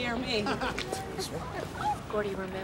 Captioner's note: laughing